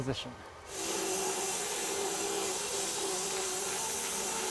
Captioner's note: saw whizzing